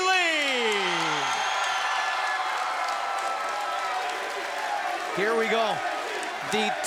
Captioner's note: crowd cheering